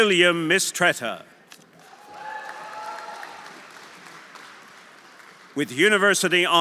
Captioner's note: audience applauding; audience cheering